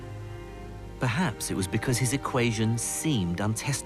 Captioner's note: voiceover